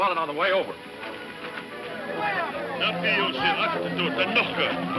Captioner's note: speaking in foreign language; shouting